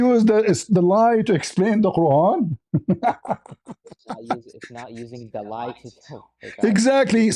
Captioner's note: laughter